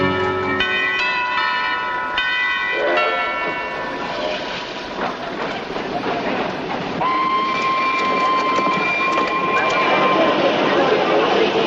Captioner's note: bell